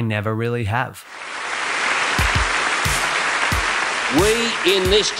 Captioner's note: audience applauding